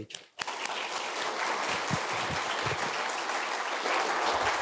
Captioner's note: audience applauding